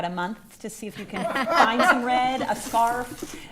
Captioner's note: attendees laughing